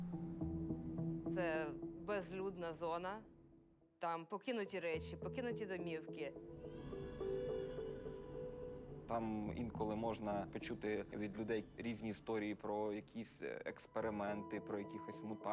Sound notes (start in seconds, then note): 6.5 infants wailing faintly